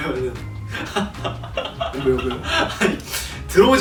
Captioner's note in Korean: 웃음